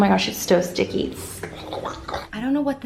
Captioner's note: disgusted sounds